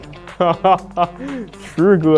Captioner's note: hahaha